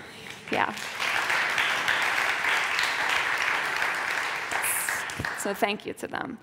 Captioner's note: applause